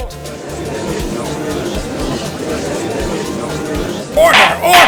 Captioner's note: gallery chattering